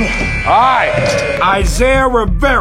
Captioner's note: dunk sound; buzzer